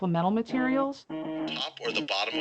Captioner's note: phone vibrating